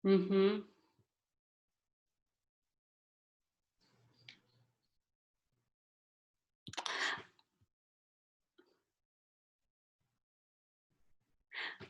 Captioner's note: silence